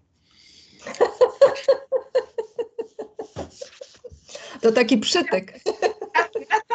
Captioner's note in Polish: śmiech